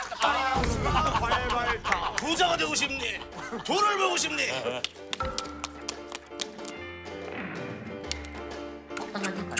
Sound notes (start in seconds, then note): 4.8 Familiar Hwatu hitting sound